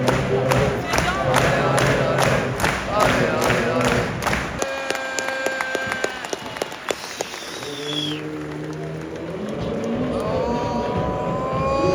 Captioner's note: clapping and chanting